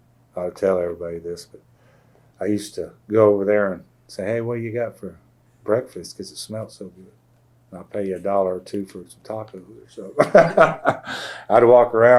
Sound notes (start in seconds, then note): 10.2 laughs